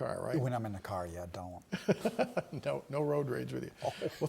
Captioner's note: laughter